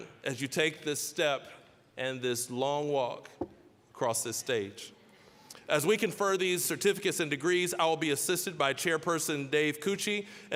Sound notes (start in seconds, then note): none